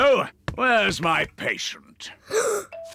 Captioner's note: gasps